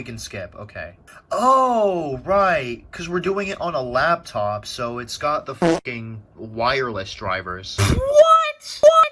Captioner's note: fart